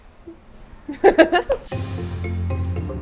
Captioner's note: laughs